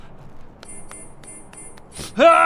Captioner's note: failed blink noises